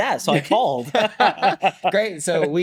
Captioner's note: both laughing